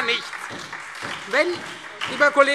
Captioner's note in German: Beifall Freie Demokraten und SPD